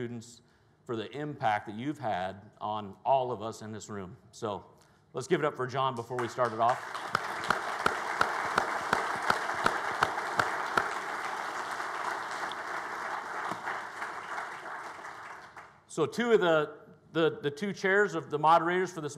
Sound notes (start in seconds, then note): 7.4 audience applauds